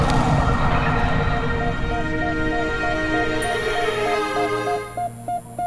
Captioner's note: machine bleeps rhythmically